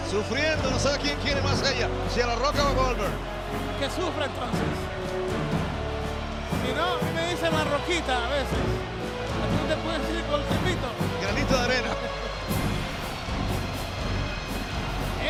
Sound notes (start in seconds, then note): 11.8 laugh